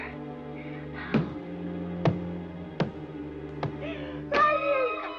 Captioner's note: banging